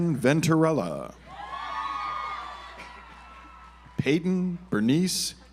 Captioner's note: audience applauds